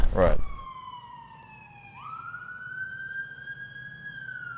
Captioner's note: sirens wailing